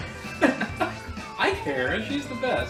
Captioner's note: laughs